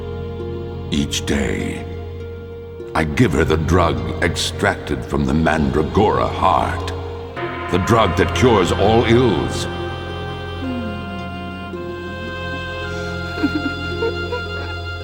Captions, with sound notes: Each day... I give her the drug extracted from the Mandragora heart, the drug that cures all ills. (Moans) (Laughing)